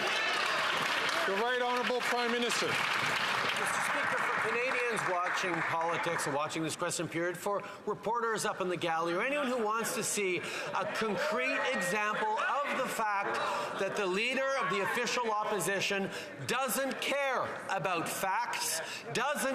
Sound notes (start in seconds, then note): 4.7 some Applause